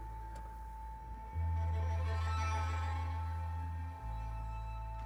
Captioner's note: none